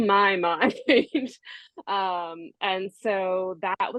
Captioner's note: laughs